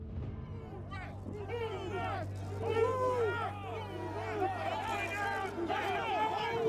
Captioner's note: shouting